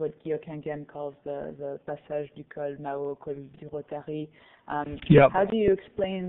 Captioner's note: foreign language